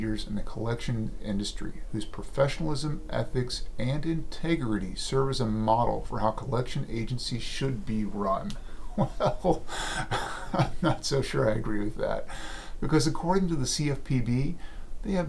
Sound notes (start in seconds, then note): 8.9 laughing